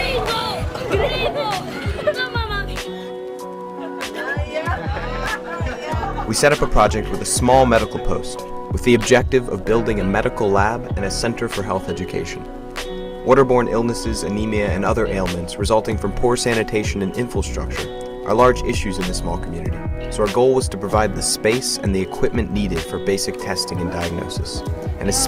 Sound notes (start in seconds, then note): 0.0 kids laughing and chatting; 3.5 people laughing and chatting